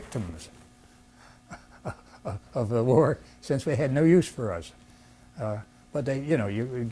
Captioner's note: laughs